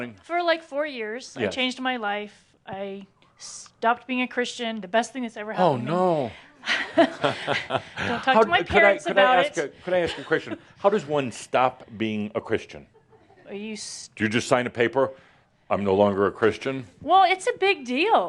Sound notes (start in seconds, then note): 6.6 they chuckle